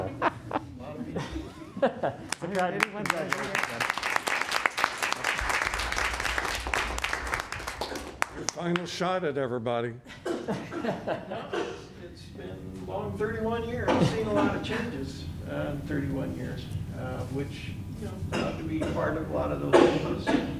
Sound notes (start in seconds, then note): 0.0 laughter; 0.2 applause; 10.0 laughter